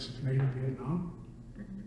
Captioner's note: none